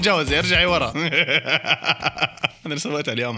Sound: laughter

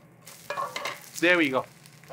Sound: rice sizzling

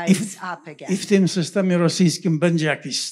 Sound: foreign language

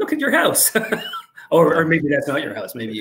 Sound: laughing

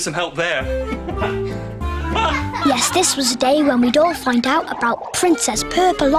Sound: laughter

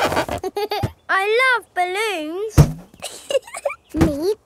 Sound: chuckles

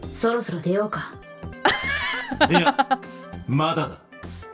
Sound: chuckles

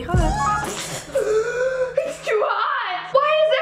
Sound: Liza spits, gasps

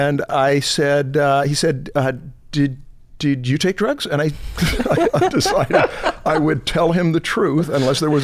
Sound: chuckles

